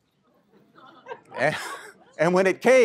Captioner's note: laughter